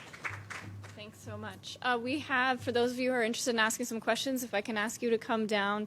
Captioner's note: applause